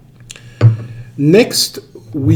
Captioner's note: wine glass thuds